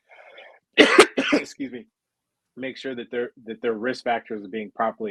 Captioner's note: coughing